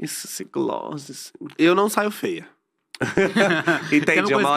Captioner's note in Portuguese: risos